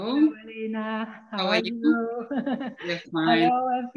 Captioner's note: laughs